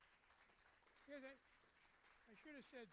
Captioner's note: applauding